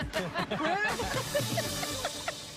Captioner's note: laughter